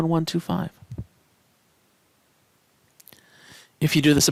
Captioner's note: no Speech Detected